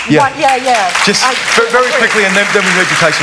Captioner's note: applause